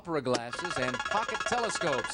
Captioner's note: buzzer beeps